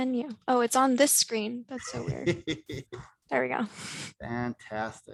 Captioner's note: laughter